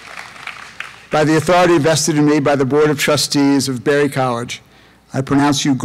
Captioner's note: applause